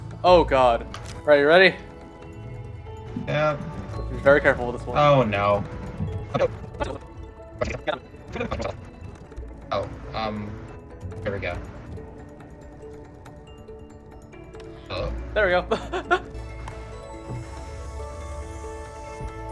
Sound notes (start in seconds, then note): 6.3 sped up dialogue; 15.6 laugh